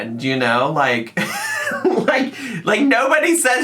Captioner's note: laughing